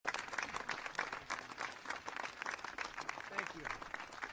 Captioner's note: applause